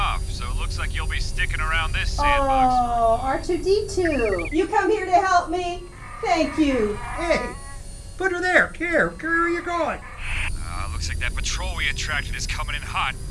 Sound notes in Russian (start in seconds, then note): 3.3 Р2-Д2 пикает; 10.5 Хан Соло раздражённо